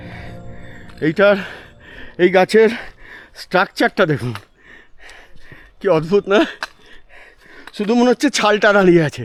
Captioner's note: gasp